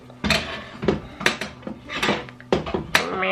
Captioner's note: lid clattering